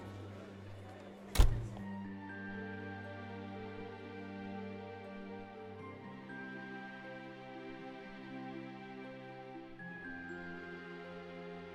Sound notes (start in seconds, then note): 1.3 door slamming; 5.0 gentle music